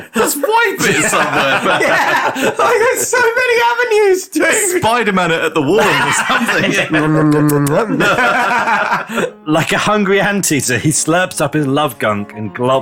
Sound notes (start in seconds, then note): 7.1 nom nom nom nom nom